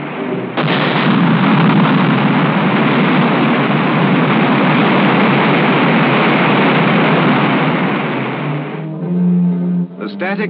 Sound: rocket Firing

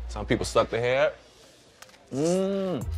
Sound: sucking

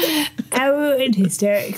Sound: laughter

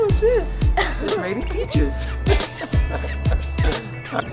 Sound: laughs

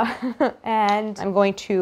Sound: Claire laughs

